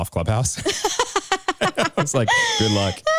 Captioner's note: chuckles